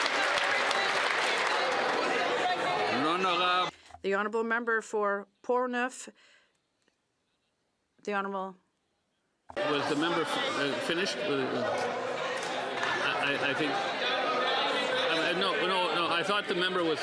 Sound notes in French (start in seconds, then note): 3.6 applaudissements